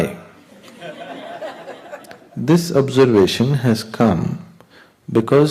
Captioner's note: laughter